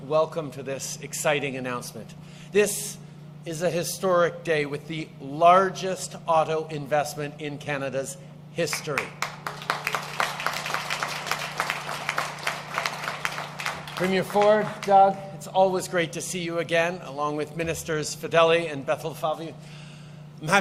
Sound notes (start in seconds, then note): 12.3 applause